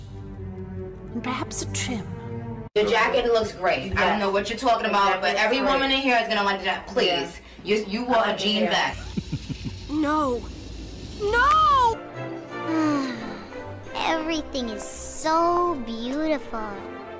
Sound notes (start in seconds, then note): 8.9 horny giggle; 12.6 sighs